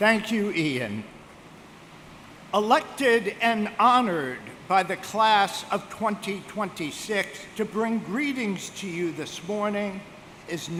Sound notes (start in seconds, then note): none